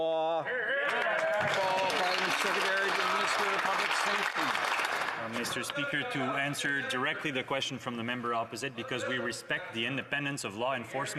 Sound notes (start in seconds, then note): 4.6 applause